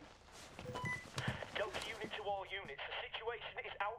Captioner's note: walkie talkie